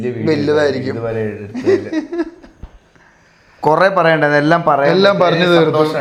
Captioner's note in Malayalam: പൊട്ടിച്ചിരി